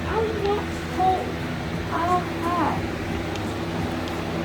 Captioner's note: fan blowing